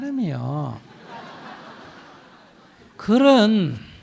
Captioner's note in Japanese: 聴衆 笑う